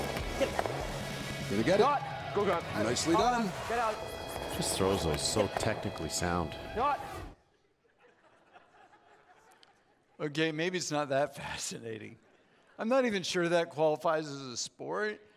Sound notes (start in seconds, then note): 7.7 audience laughs